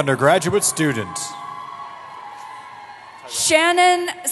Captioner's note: cheering